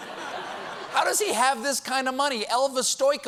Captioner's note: laughter